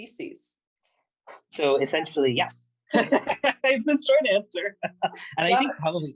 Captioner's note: laughter